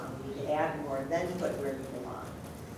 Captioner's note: voice muffled